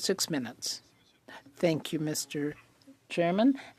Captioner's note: speaking French